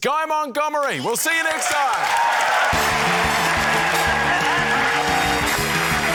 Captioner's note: cheering, applause